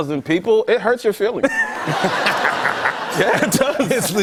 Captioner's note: laughter